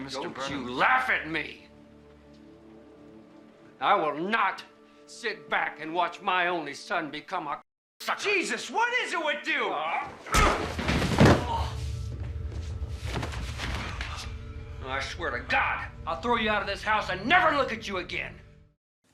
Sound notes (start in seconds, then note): 10.1 grunts; 11.1 groans